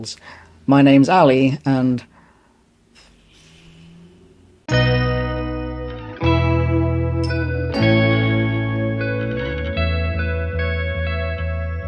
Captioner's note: overwhelmed exhalation